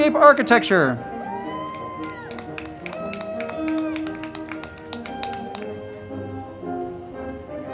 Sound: band music; crowd clapping and cheering

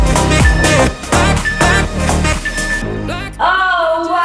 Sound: timer beeping

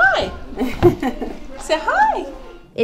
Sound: laughs

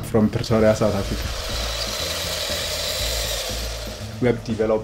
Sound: whirring

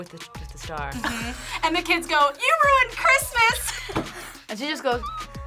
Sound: laughs

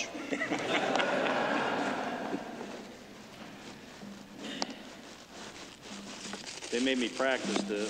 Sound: laughter

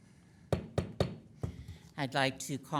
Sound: gavel banging

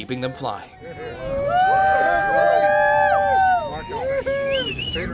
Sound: crowd cheering

